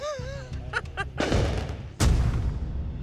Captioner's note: fireworks exploding